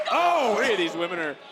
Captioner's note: commentators exclaim